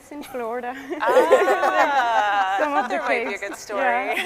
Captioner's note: scientists laughing